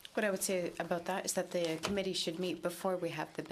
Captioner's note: speaking in french